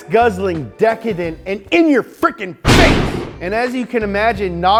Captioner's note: thunders